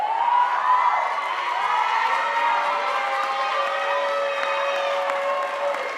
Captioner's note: audience cheering and applauding